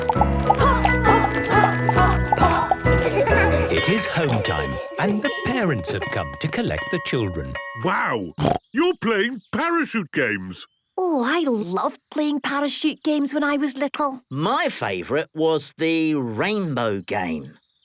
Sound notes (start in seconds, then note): 2.9 laughter; 8.4 snorting